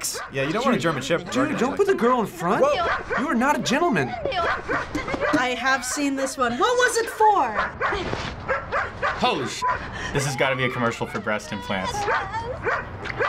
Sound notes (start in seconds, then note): 8.4 dog barking